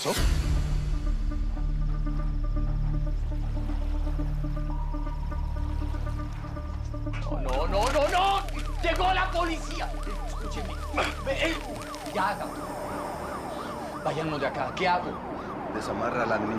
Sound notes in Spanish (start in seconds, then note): 8.7 Sirenas acercándose al área; 13.4 Sirenas